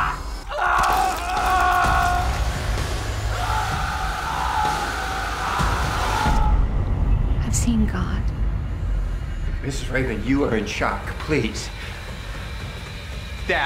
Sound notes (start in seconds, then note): 0.9 screaming